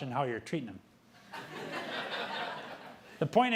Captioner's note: audience laughing